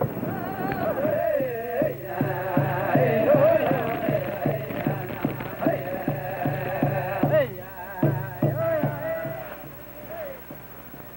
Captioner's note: chanting